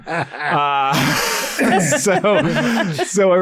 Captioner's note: laughs